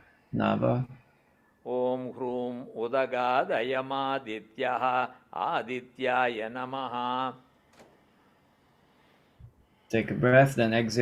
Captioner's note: exhale